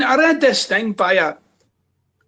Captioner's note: none